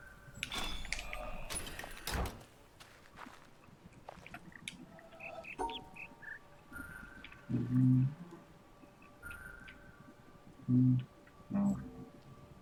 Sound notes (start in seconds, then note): 5.0 bird chirps five notes